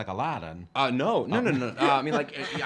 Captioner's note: laughing